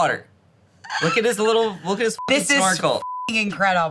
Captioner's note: beep